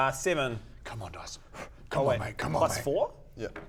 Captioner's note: blow